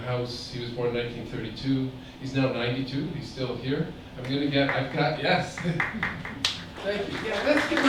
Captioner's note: applause